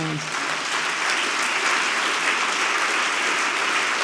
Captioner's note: audience clapping